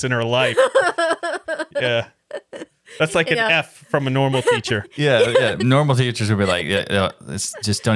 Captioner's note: laughing